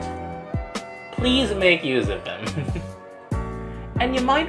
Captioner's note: chuckles